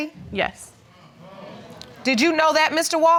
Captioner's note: audience murmuring